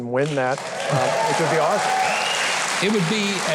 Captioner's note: audience cheering